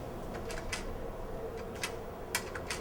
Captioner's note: buttons click